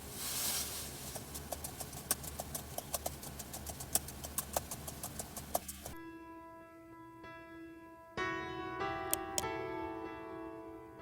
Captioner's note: typing